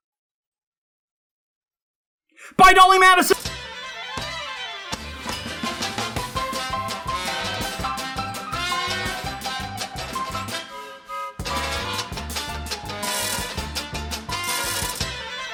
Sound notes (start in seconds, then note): 2.3 shouting